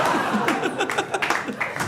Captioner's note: audience laughing